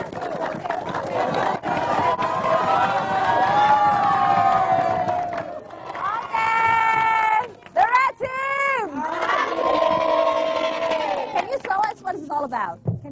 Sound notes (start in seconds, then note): 8.8 cheering